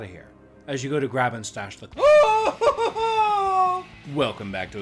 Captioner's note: screaming